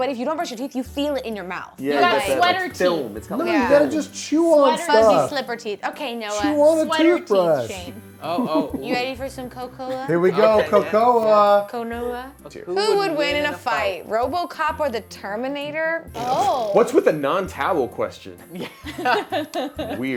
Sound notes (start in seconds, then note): 16.1 blows raspberry; 18.4 laughter